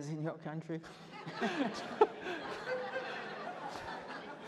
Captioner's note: laughter